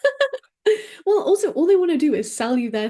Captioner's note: laughs